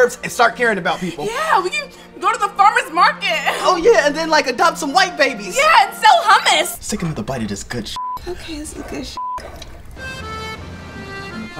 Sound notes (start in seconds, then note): 9.1 beep; 9.4 fun music